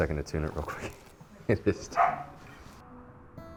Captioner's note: laughs